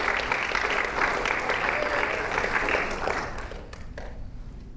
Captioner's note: audience applauding